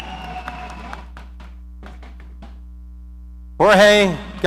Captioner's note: audience applauding